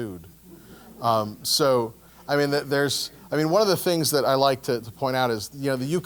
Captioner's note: laugh